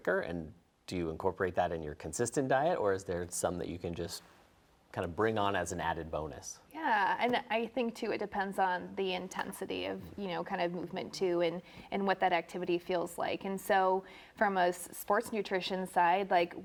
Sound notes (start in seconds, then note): none